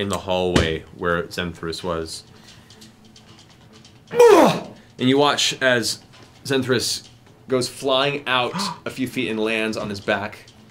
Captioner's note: pained shout